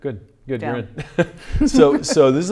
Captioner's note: laughing